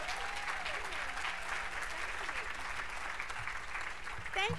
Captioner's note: applause